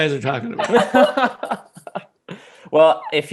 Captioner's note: laughing